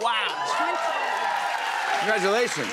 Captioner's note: cheers and applause